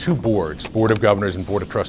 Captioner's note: rustles papers